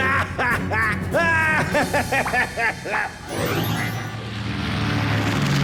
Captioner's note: laughing